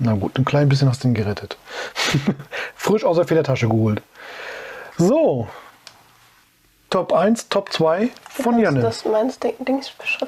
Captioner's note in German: lach